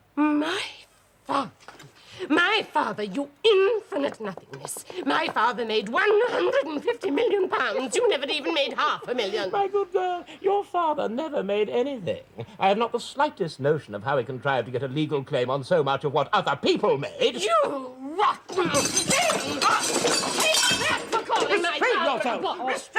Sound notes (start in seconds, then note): 9.3 laughing